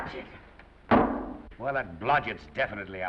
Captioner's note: foot thuds